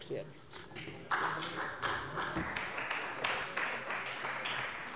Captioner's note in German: Beifall bei der CDU und dem BÜNDNIS 90/DIE GRÜNEN